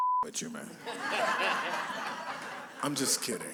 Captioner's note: laughter